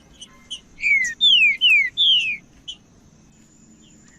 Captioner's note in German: trinca ferro cantando